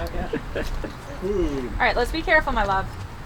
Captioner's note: laughing